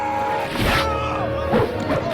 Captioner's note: slashing